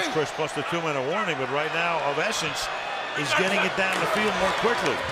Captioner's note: pa announcement